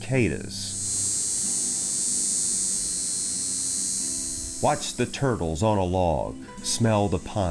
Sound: cicadas buzzing

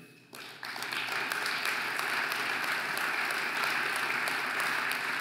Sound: audience applauding

